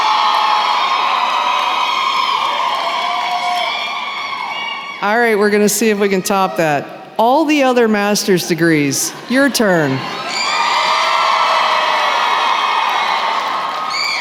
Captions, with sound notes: All right. We’re going to see if we can top that. All the other Master’s degrees, your turn. [cheering]